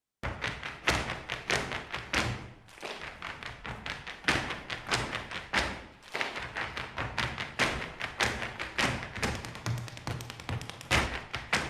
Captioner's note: feet tapping to a rhythm